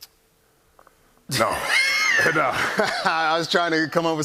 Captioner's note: laughter